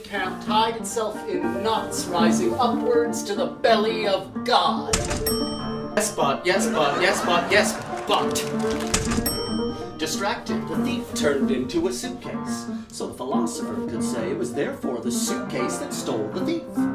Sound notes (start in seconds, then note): 5.1 elevator ding; 8.8 elevator ding